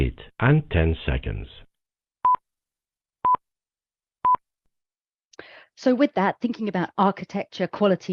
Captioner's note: three measured beeps